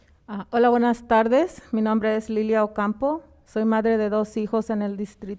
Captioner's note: speaking in foreign language